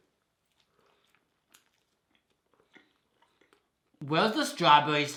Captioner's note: both chewing